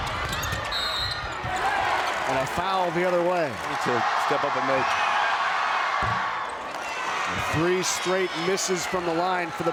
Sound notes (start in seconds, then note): 0.7 whistle blows; 0.9 crowd cheers